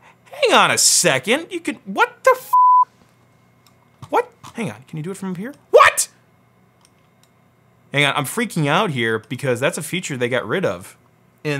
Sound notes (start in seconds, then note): 2.5 beep